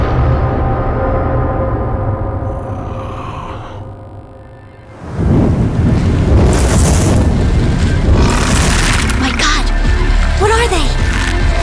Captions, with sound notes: (Growls) My god! What are they?!